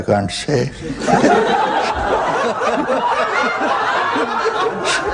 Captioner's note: laughter